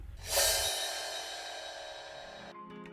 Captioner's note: scene swooshing; gentle music